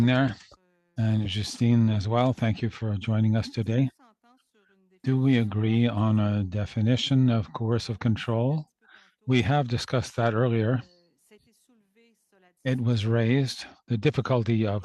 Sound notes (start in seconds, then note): 1.4 speaking French